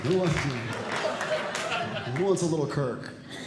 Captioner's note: audience Laughing